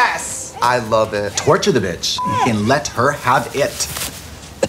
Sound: beep

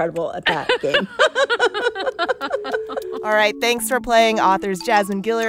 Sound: laughter

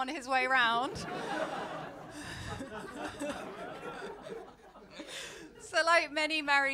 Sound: laughter

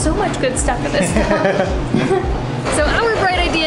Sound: both laughs

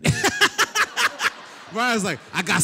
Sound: laughter

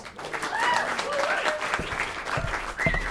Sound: applause

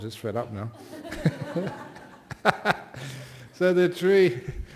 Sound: laughter

